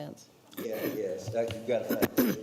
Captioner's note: clearing throat